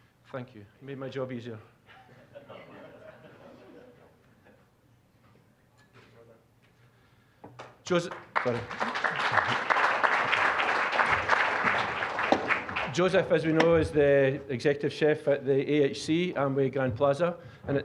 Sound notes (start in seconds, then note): 2.3 scattered chuckling; 9.6 applause